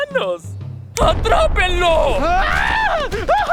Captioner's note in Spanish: Chasquido